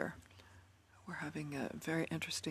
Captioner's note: speaking French